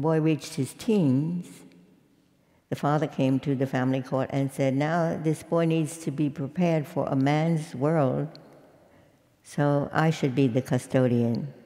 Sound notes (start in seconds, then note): none